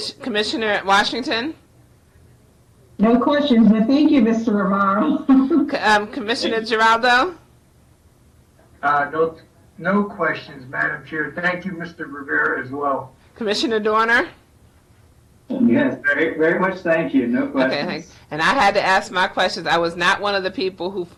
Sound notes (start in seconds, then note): 5.0 laughing